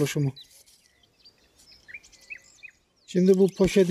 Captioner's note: bird sounds